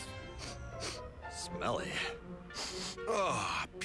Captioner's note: sniffs; sniffs